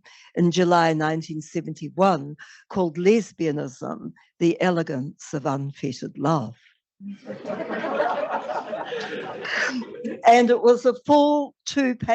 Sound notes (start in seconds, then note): 7.1 laughter